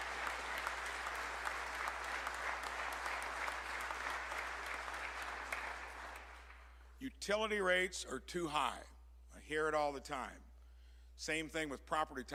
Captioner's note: applause